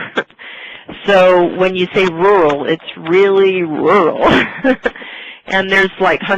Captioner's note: laughter; laughter